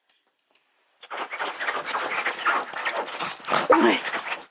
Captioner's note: barks; scratches bed; barks